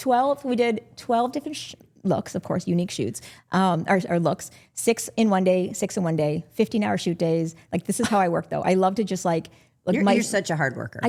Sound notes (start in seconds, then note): none